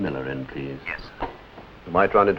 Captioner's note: on phone